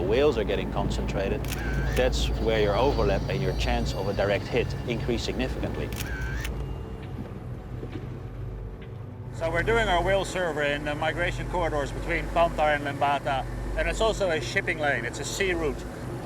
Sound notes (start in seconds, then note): 5.8 camera shutter clicking